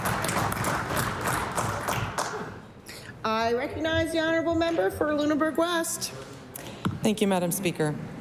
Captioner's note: applause